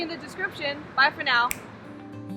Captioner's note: snap